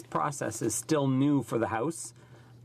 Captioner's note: speaking French